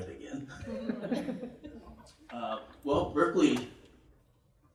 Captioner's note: laughter